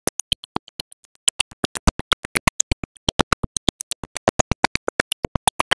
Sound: none

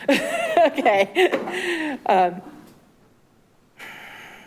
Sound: clerk chuckles

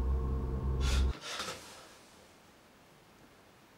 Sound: gasp

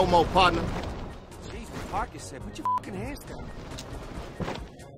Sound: beep

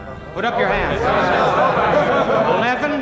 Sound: men chattering

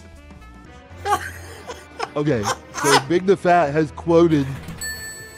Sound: erarg laughs

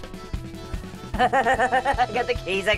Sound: laughs

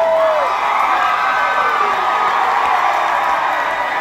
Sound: cheering swells

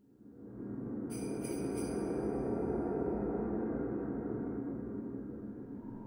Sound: sleigh bells ringing

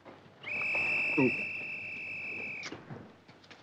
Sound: Guard's whistle

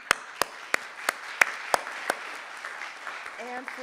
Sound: audience applauding

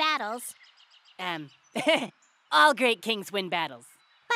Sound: chuckles

